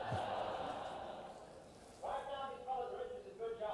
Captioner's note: audience laughter